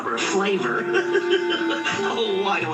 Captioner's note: chuckling